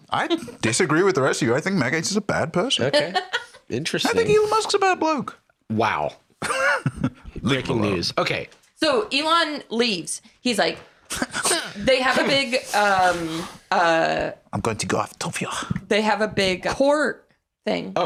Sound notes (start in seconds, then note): 11.2 whining